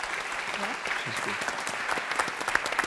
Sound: applause

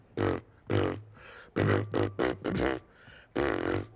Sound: deep vibrating

